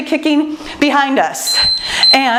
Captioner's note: timer beeps